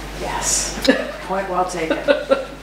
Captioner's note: laughs